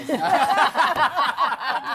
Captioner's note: laughter